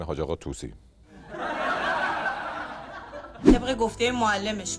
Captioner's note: laughter